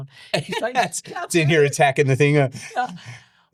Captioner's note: laughing